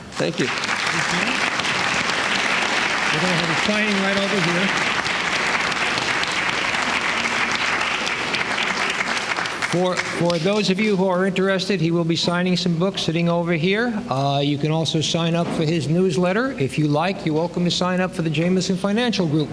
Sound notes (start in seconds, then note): 1.1 applause; 4.9 applause